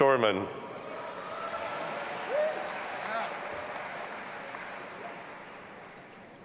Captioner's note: audience applauding and cheering